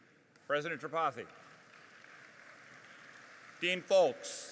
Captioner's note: audience applauding